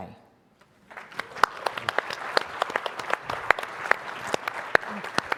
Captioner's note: audience applauding